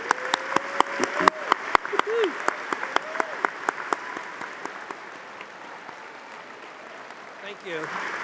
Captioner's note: audience applauding